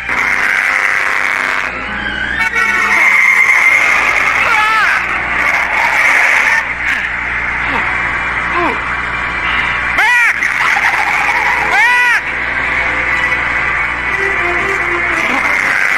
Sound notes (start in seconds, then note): 0.0 horns honking; 0.1 engine revving; 4.4 screams; 4.4 tires screeching; 6.8 panting